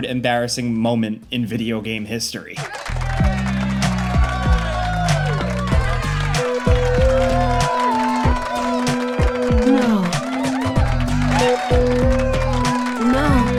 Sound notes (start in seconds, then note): 2.6 crowd cheering and clapping; 3.0 sensual music; 10.9 crowd cheering and clapping; 10.9 sensual music